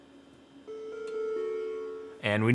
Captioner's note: computer chimes softly